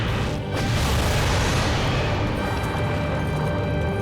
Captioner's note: booming